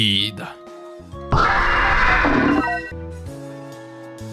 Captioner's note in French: cri de Palkia